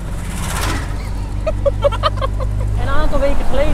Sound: laughter

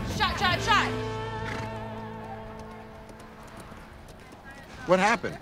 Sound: hooves clopping

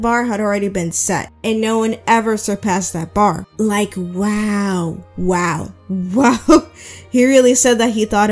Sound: laughs

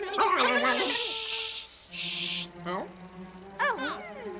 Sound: cranes argue loudly; and duck shushing

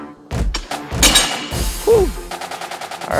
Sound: weights clattering

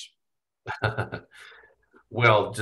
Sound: laughs

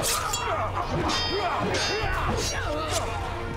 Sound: metal clanging

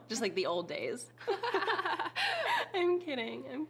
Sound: laughing

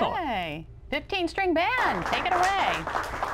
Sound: applause

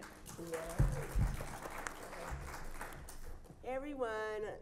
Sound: audience applauds

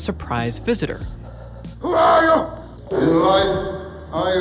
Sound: panting

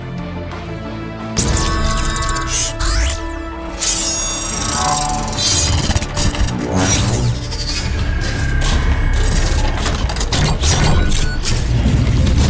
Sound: mechanical Sound Effects

